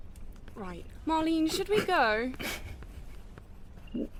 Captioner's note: Marlene giggles